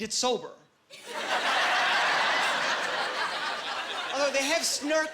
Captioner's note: laughing